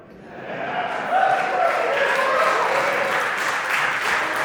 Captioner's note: applause